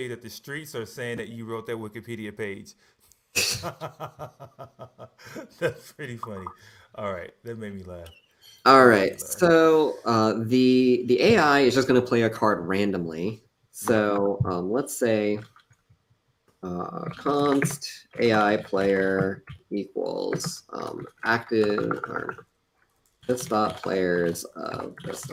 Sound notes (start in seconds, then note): 3.4 laughs